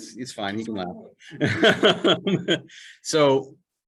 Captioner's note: chuckle